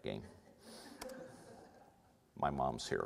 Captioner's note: audience laughter